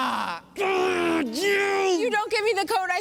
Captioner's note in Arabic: مالكولم يئن بشدة; يئن بشدة